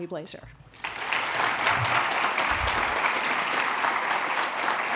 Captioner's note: applause